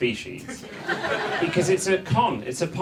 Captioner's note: audience laughs